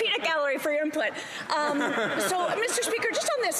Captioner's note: laughter